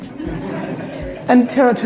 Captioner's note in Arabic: يغمغم الجمهور